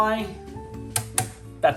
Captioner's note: blunt tapping